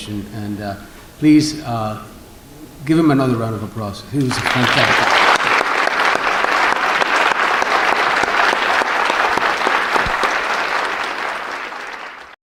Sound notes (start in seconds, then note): 7.5 applause